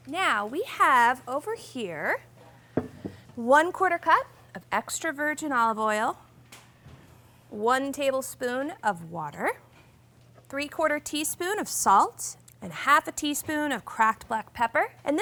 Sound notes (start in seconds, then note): none